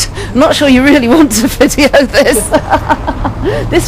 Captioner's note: laughs